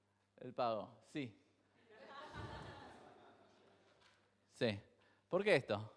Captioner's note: crowd laughs